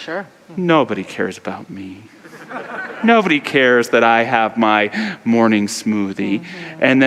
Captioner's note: audience laughter